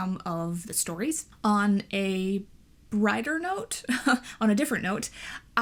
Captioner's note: chuckles